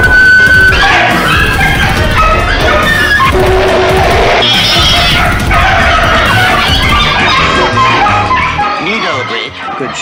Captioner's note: dog & Cats Bark & Meow